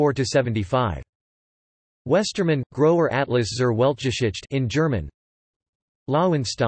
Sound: in German

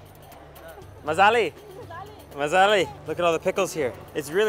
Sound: in foreign language

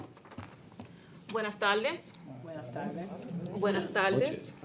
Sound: board responds in spanish; student greeting in Spanish; board responds in spanish; student greeting in Spanish

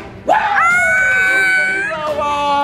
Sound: shouting

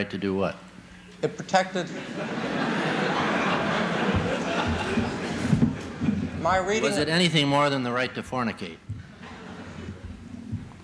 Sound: laughter

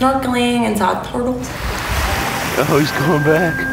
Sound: ocean waves crashing; flute music

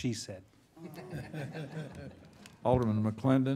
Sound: all laughing

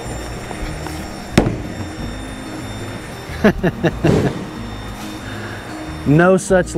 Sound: Jack laughs; bowling ball thuds

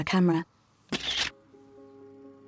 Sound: camera flash

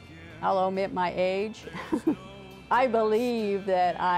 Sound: laughs

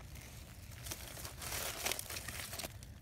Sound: foliage rustling

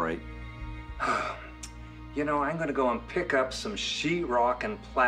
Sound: sighs

